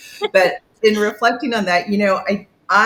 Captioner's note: laughing